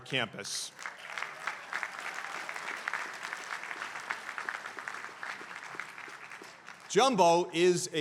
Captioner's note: applause